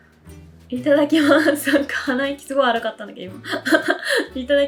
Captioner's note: laughs